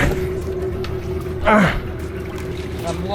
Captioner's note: using a little strength and groaning